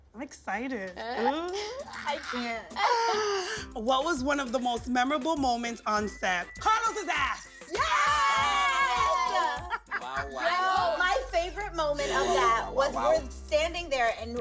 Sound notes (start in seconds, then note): 7.7 cast members cheer